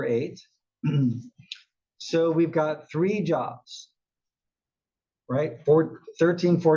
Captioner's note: cough